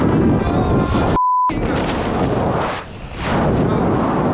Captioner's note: beep